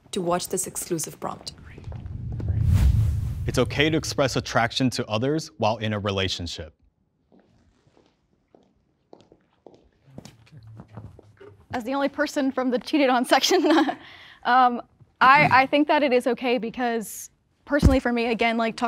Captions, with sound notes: to watch this exclusive prompt. (dramatic music) - It's okay to express attraction to others while in a relationship. (footsteps clicking) - As the only person from the cheated on section, I think that it is okay because personally for me, again, like,